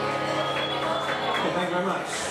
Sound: guitar strums; cheering and clapping

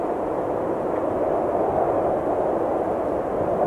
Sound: air blowing

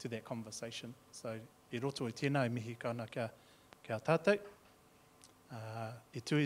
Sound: speaking in foreign language

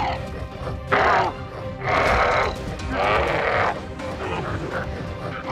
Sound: growling

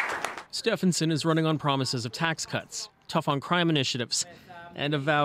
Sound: applause

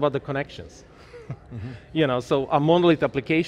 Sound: giggles

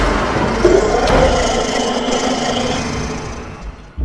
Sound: heavy Growl

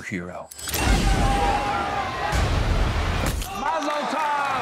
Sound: people screaming

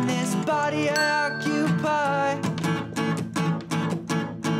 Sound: timer dinging

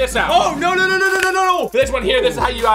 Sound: egg cracks

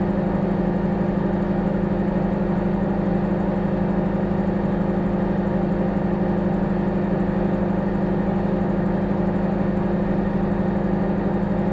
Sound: microwave humming

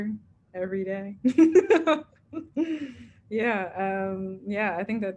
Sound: laughs

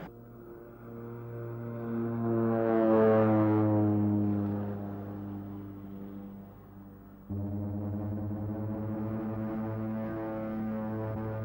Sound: aircraft noises

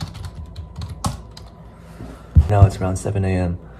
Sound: keyboard typing

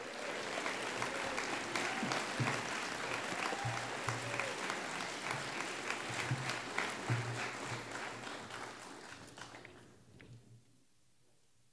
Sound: applause

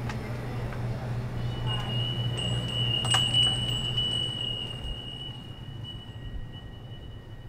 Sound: door bell sound

